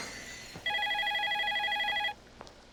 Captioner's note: phone rings